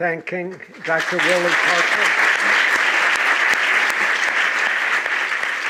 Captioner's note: applause